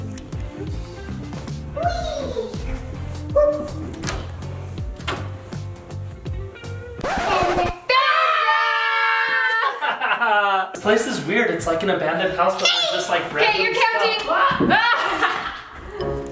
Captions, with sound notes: Wee! Woops Found him (screams) - This place is weird, it's like an abandoned house but like there's like random stuff. - K, you're counting!